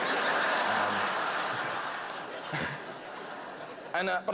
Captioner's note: laughter